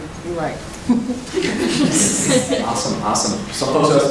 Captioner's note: laughing